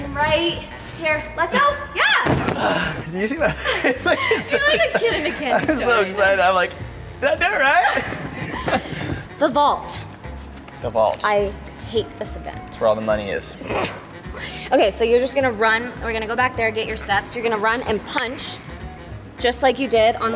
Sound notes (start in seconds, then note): 3.2 both laugh; 13.6 laughs